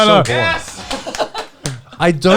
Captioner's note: all laughing